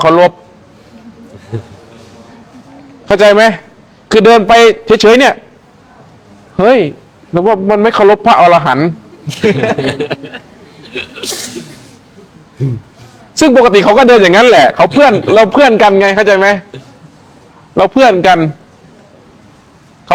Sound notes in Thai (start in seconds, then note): 9.2 เสียงหัวเราะ